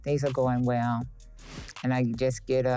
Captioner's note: air whooshing